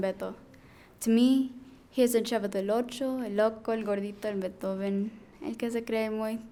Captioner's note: speaking in foreign language